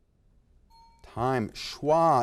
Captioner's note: bell ding